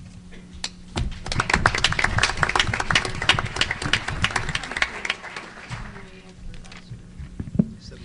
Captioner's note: applause